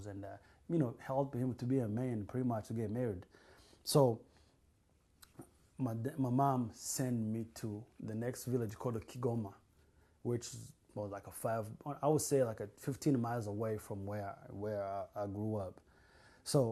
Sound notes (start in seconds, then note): none